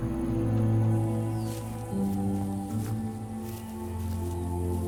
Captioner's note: somber music; grass crunching